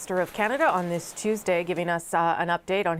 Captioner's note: speaking french